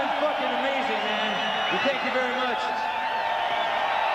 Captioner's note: audience cheering